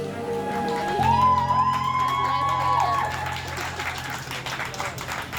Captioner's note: staff cheering and clapping